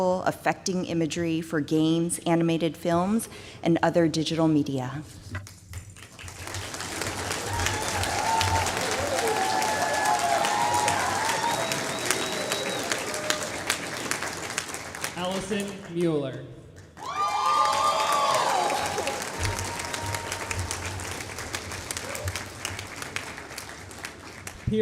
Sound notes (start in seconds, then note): 5.9 applause